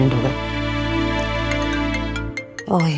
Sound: cell phone ringing

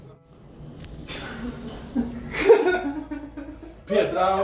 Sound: laughing

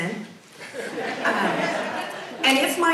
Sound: audience laughs

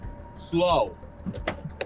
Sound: footsteps

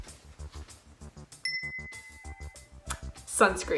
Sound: chimes

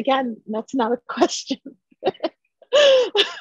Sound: laughter

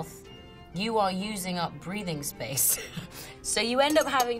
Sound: laughs

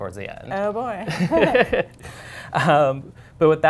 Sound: laughter

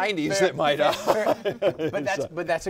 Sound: all laughing

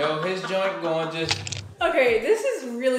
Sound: cracking sound

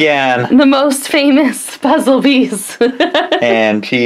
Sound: laughs

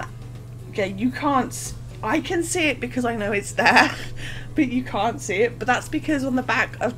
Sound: laughs

